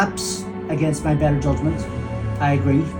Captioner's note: car revs up